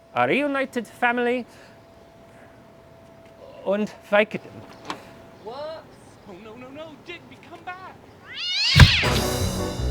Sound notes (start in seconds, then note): 4.7 door opens; 8.3 cat hisses